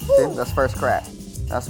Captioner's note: popping